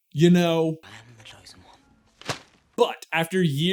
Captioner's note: thwap!